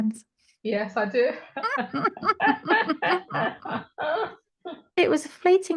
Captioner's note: laughter